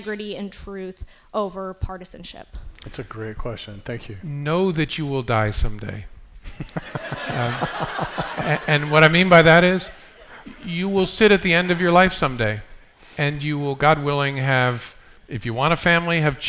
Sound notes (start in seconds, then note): 6.4 laughter